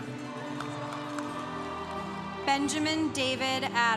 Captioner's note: congregation cheering